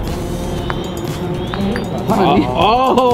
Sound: cling!

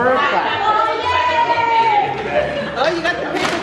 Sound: cheering

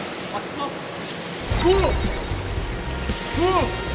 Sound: he yells with confidence

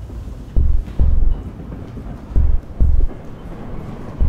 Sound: heartbeat pounding

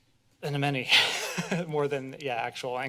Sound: laughs

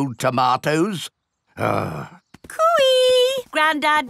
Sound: grumbles

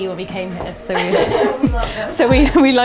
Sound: laughing

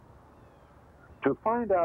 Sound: birds chirping

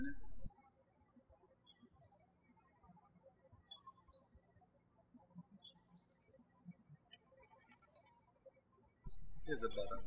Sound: birds chirping

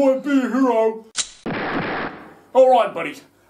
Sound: fires two gunshots

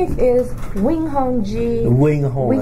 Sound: rustling sounds

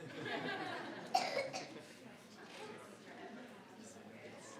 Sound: crowd giggling

